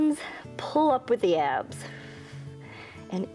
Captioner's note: exhales